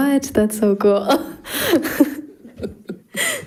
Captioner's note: laughs; laughing